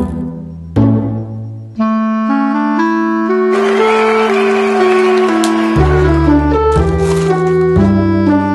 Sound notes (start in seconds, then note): 3.4 crowd cheers; 6.8 ice shaving sound